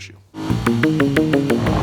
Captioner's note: engine accelerating; upbeat music playing